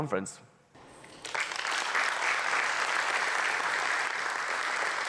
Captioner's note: audience clapping